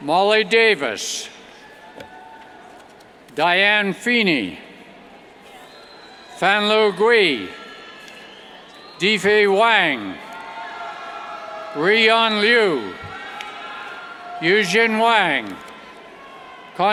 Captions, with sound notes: Molly Davis, Diane Feeney, Fanly Gui, Difei Wang, Ruiyan Lu, (cheers) Yuexin Wang, Congxun Zhou,